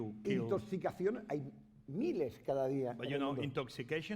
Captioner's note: speaking spanish